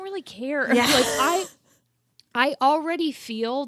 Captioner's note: both laughing